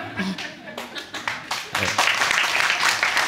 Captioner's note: audience applauding